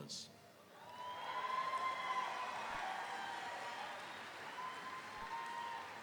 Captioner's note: audience cheering; audience applauding